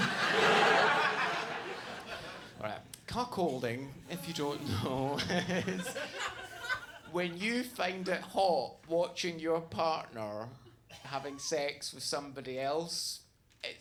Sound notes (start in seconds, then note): 0.0 audience laughs; 4.1 laughs